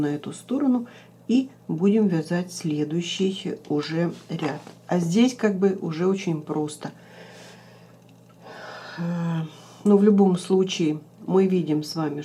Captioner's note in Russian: вздыхает